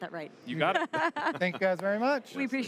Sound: laughter

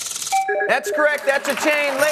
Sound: chime

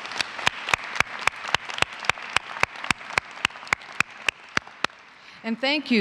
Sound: applause

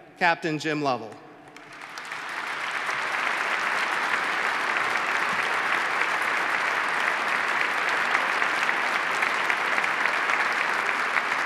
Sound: applause

